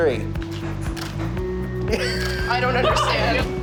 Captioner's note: camera clicks